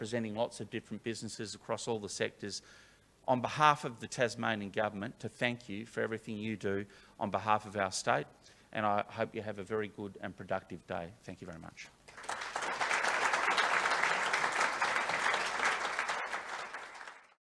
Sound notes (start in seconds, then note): 12.0 applause